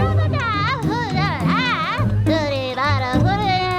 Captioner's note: woman speaking loudly in the background